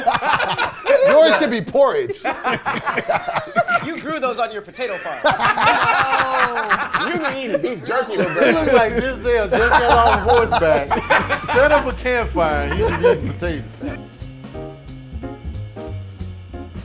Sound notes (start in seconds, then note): 0.0 laughter; 5.8 laughter; 14.2 jazz music